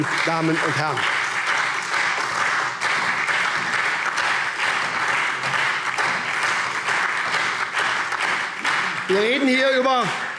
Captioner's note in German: Lebhafter Beifall SPD und DIE LINKE